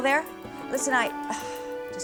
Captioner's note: sighs